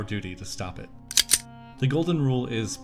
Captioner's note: gun clicks